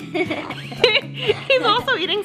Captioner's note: laughing